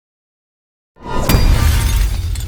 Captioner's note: glass shatters